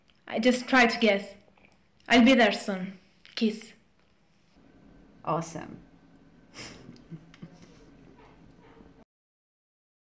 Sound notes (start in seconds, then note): 6.5 chuckles